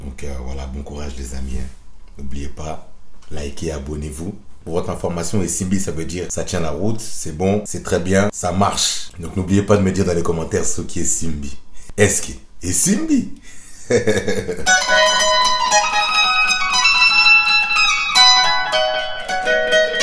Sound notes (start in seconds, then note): 13.7 laugh